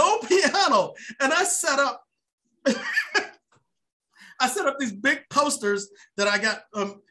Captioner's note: laughs